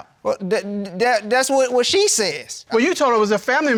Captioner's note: stammers